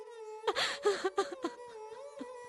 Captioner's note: crying